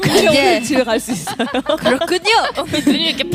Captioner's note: dry laughters in the game hell